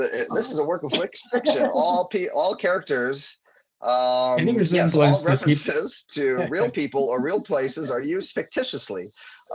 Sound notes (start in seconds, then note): 1.4 laughing; 5.1 laughing